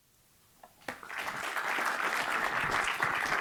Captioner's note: audience applauding